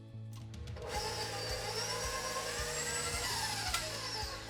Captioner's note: mixer roaring